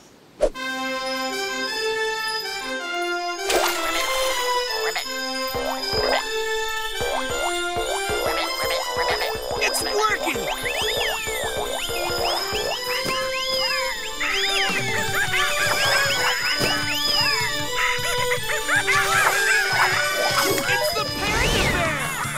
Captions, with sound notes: [playing horn] [croaking] [croaking] It's working! [chirping] [monkeys gibbering] It's the panda bear!